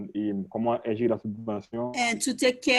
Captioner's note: French spoken